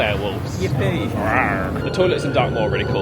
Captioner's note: growls playfully